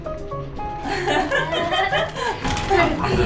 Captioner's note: ehehehe